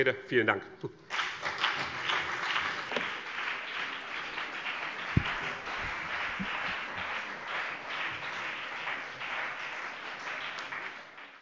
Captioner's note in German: Beifall BÜNDNIS 90/DIE GRÜNEN und vereinzelt CDU